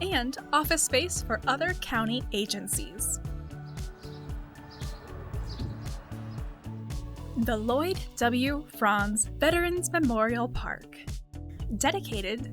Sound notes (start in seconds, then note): 3.6 upbeat music; 4.5 birds chirping